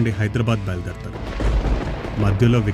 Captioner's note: thunder light sound